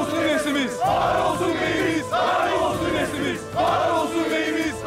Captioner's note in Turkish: Hep bir ağızdan